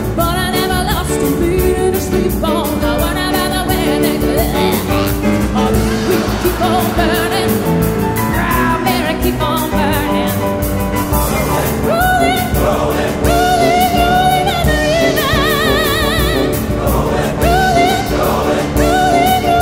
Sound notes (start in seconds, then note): 5.1 croaks